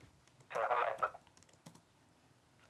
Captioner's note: broken up voice